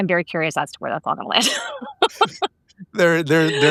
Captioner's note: laughing